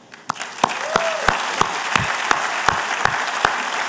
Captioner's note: applause